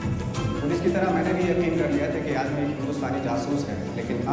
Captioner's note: non-english speech